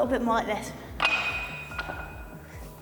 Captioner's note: plates clatter on bar during lift